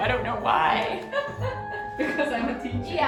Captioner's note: laughing